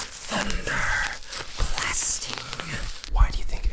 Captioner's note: crinkling